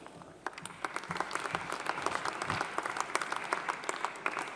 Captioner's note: audience applauding